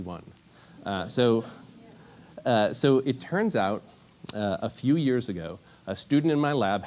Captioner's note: laugh